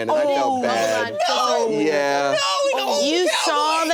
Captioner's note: laughter